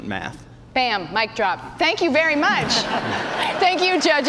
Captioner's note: laughter; cheers and applause